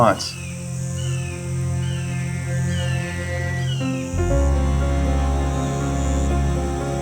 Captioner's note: suspenseful music; bird cawing